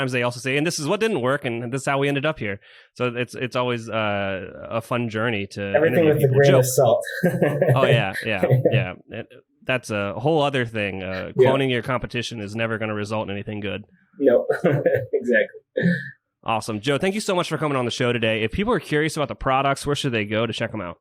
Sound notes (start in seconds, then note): 5.8 laughs